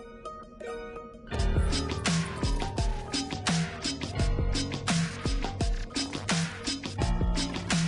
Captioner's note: ambulance sound